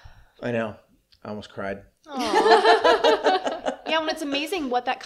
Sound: awww, laughter

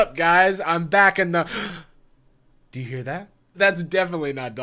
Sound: gasps

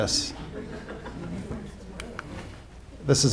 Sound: laughter

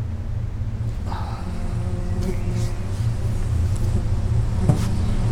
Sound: insect buzzes

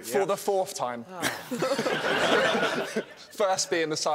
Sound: laughing

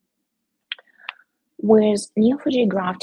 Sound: keyboard clicking

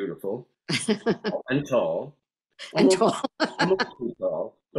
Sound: laughs

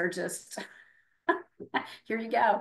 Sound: laughing

